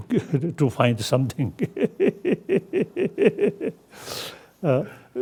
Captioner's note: laughs loudly